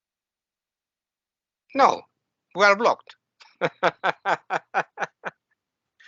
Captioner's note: laughing